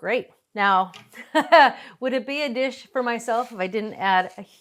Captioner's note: laughs